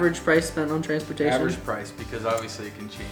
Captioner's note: male Voice